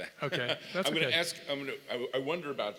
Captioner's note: laugh